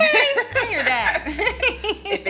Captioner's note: both laughing